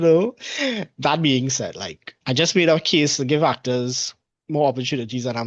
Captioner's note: laughs